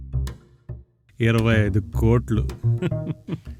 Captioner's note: cunning laugh